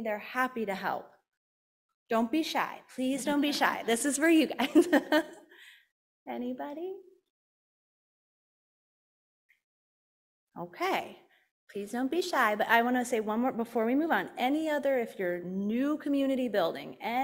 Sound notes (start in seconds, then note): 3.4 panel chuckling; 4.5 laughing